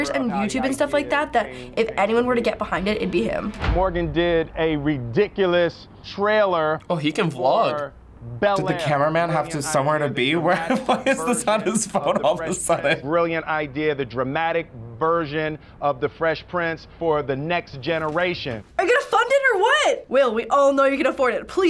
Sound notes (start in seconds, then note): 10.5 chuckles